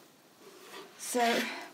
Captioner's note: mannequin rustles